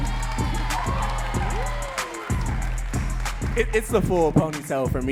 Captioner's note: audience cheering and clapping